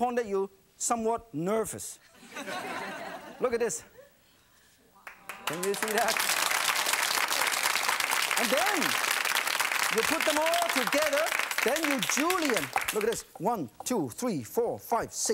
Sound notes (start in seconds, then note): 2.2 laughing; 6.9 clapping